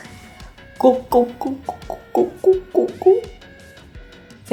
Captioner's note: milk-drinking sound